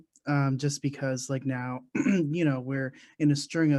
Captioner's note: clears throat